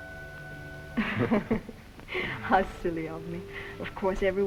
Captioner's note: both laugh